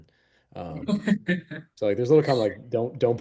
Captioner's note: laughing